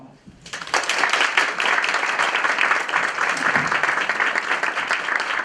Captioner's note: applause